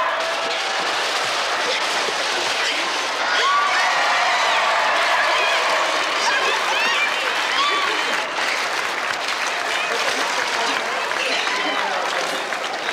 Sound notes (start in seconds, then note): 3.1 crowd cheer; 4.1 applause